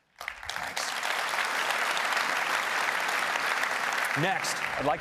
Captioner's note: applause